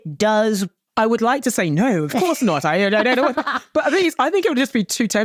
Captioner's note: both chuckling